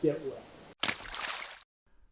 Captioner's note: splash